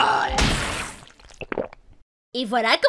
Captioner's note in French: bruit de déglutition